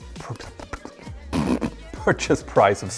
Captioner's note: blows raspberry